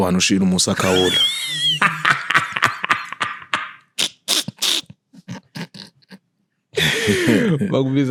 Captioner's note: laughing